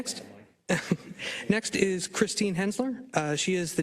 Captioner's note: laugh